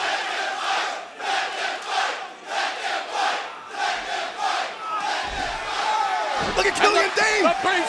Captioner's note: crowd cheering